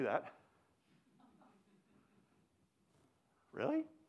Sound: audience laughs

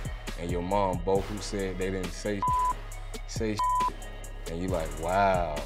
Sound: beep

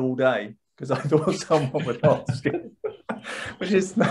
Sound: laughs

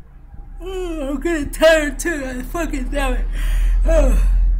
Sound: yawns

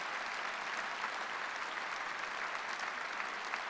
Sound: applause

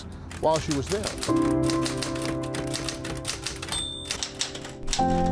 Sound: typewriter clicking

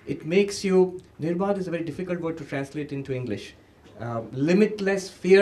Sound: hindi

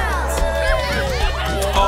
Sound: cheering

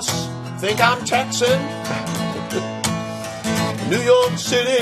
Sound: chuckles

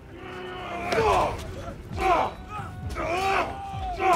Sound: shouting

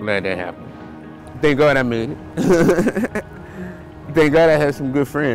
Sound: laughing

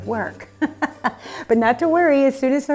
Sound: laughs

